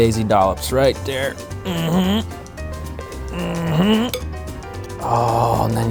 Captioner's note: grunts